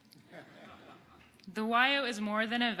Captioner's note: audience laughing